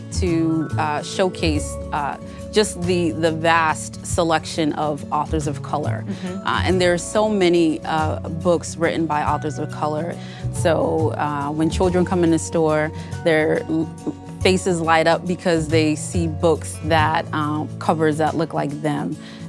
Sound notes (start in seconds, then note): none